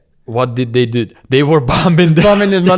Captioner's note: laughs